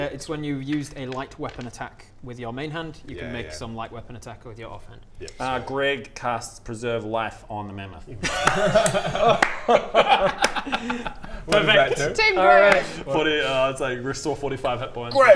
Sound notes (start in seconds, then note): 8.2 claps in support; 9.9 laughs in betrayal